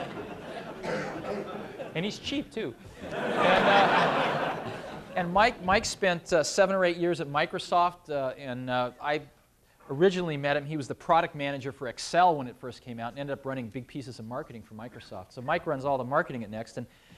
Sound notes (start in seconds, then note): 2.8 laughter